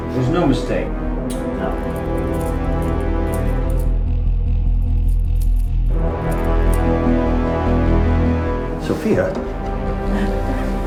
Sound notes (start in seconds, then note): 2.0 dramatic music; 3.1 handcuffs clicking